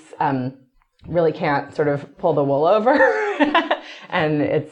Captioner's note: laughs